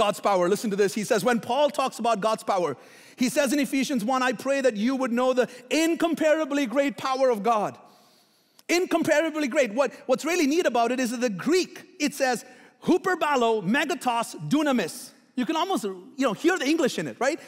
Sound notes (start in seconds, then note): 13.7 foreign language